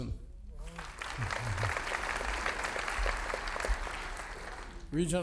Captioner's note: audience applauding